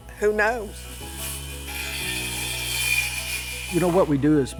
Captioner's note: circular saw whirring